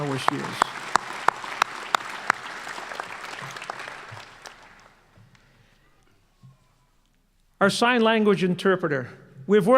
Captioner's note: applause